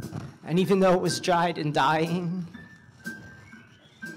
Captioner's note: none